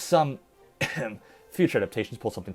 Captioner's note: ahem